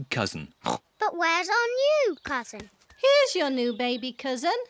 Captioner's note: oinks